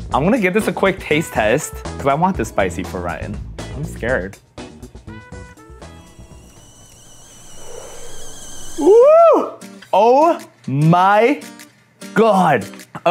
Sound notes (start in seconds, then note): 5.6 tea kettle whistling